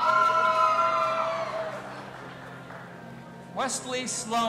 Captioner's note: audience applauding and cheering